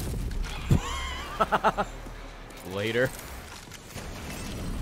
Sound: laughs

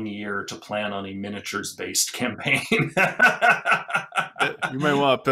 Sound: he laughs

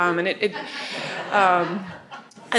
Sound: audience laughing

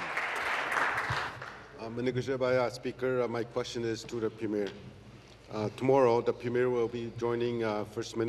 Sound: applause; remarks in Oji-Cree

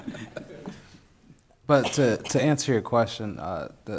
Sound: laughing

